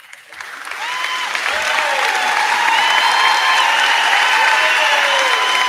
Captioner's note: crowd cheering; crowd clapping